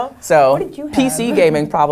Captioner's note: laugh